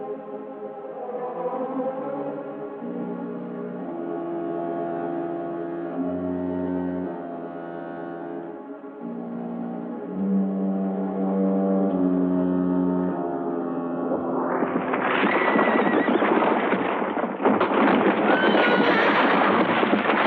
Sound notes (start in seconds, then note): 14.1 horse neighing; 14.6 rocks rattling; 18.3 horse neighing